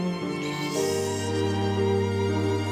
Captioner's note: Riz'shar sips